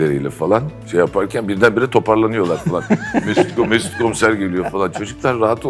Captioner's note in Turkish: kahkaha